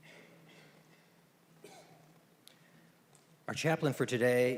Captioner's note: moment of silence